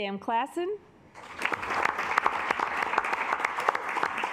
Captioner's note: assembly clapping